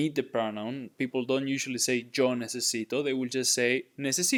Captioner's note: speaking in Spanish